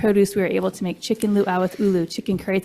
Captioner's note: foreign language